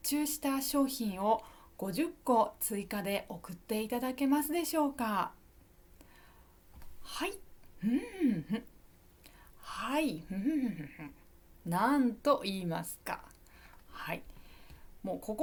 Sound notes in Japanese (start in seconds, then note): 7.8 咳払い